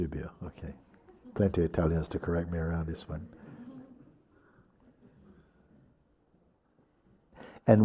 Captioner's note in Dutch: gelach